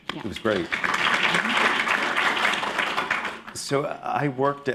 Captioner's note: applause